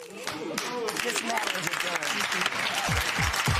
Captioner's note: spectators murmur; applause